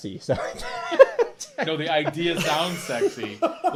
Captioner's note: laughing